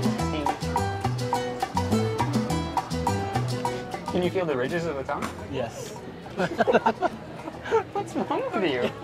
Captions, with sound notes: - Can you feel the ridges of the tongue? - Yes. (both laugh) - What's wrong with you?